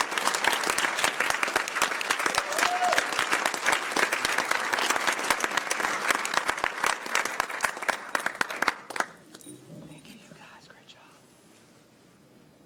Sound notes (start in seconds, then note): 0.0 applause